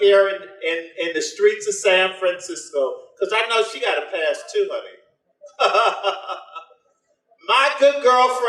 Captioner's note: laughs